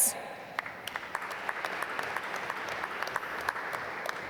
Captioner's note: applause